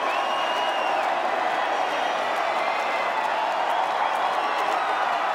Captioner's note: crowd cheering